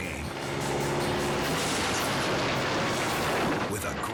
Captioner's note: plane crashes